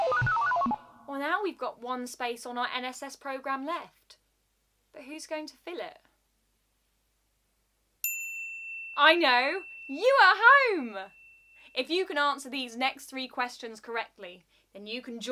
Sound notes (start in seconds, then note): 8.0 lightbulb ding